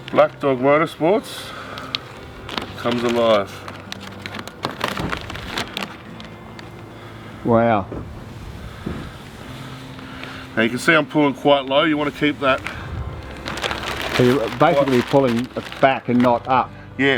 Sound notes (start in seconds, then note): 4.3 paper rustles